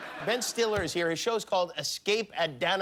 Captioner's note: laughter